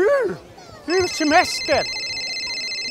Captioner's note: phone signal